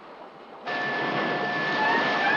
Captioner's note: alarm blaring